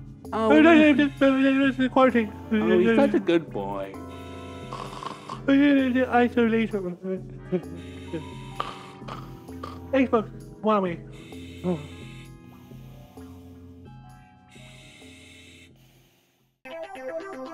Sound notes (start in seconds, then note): 0.1 talks in his sleep; 5.4 talks in his sleep